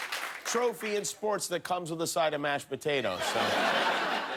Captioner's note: applause